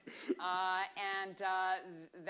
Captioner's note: laughter